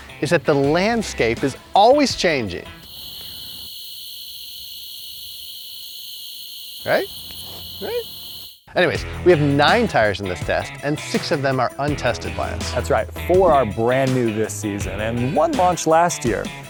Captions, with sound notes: that the landscape is always changing. (Crickets chirping) Right? Right? Anyways, we have nine tires in this test, and six of them are untested by us. - That's right. For our brand new this season and one launched last year.